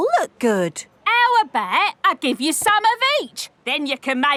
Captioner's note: none